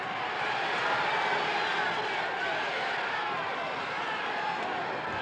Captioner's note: crowd shouting